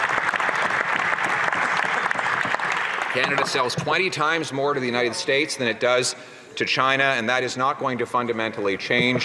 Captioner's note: some Applause